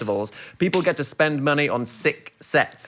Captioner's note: fist smacking